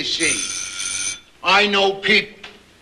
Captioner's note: doorbell rings